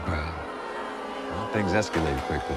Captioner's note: jeering